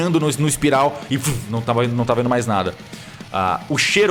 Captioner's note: vrum